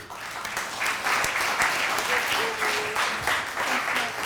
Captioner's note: audience clapping